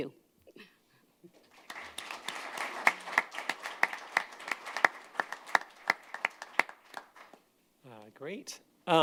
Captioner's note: applause